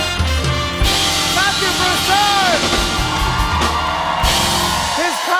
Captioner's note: cheers and applause